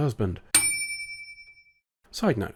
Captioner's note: ding